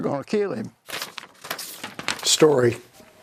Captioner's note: pages shuffling